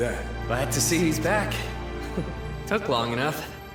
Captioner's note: chuckles